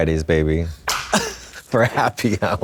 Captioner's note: Trixie slaps